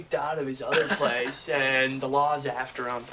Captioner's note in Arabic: صديق يضحك